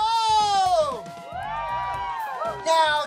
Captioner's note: cheering